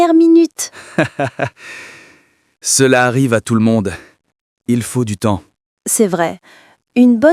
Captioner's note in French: rit doucement